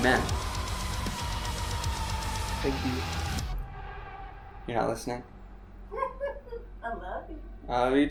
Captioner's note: laughs